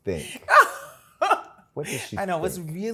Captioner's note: laughs